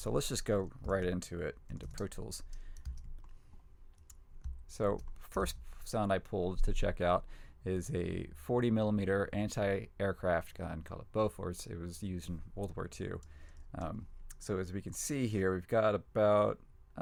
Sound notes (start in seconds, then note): none